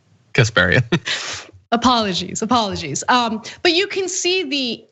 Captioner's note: laugh